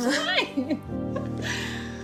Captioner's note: Jackie laughs